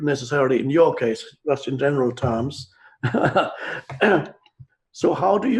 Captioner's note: laughs